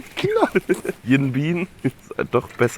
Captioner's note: Lachen